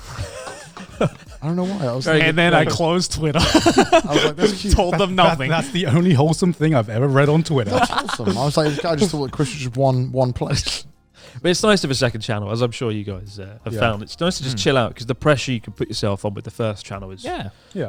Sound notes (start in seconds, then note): 0.0 all chuckling; 3.9 laughing; 7.4 laughs